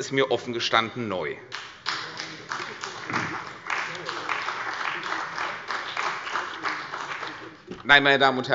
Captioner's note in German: Beifall bei der CDU und dem BÜNDNIS 90/DIE GRÜNEN